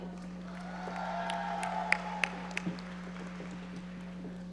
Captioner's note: audience applauding